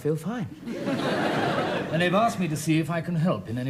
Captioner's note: audience laughs